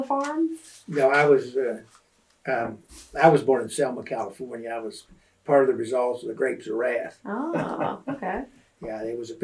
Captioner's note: laughs